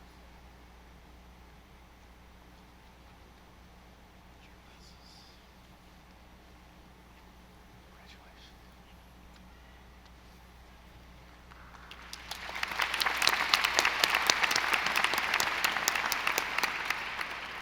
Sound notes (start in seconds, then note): 11.6 audience applauding